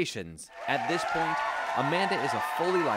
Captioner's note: cheering